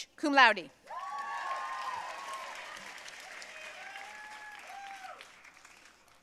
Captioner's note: audience cheering and applauding